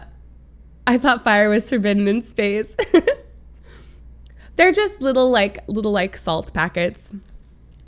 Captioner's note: laughs